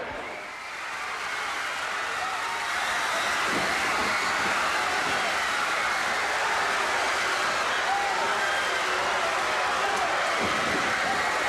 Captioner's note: crowd cheering